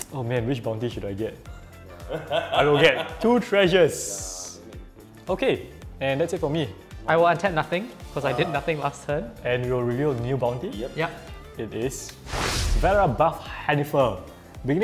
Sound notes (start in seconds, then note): 2.0 laughs